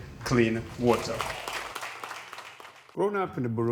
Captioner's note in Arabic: الضيوف يصفقون